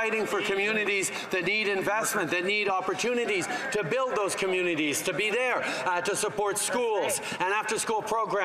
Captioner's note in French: voix de l'interprète